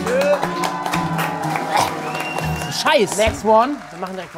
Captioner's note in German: Jubellaute, abfallende Klänge; Angeekelter Laut, Pfiffe